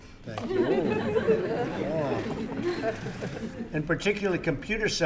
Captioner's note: laughter